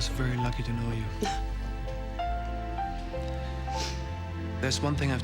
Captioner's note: Nora chuckles